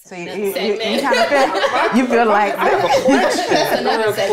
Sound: all laugh

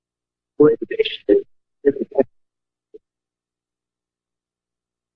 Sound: Static; distorted sound

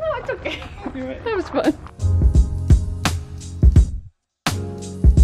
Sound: laughs; calm music continues

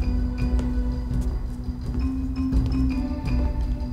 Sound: footsteps

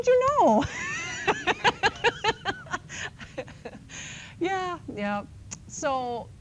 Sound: laughs

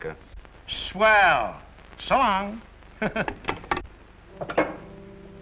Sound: chuckles

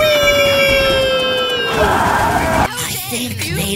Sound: box screams

